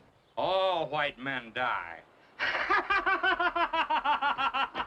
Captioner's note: laughing